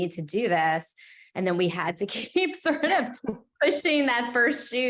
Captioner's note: laughing